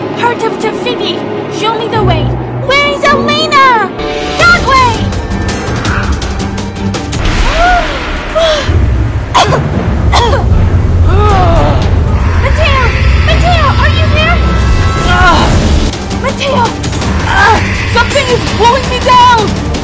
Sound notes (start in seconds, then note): 9.3 cough cough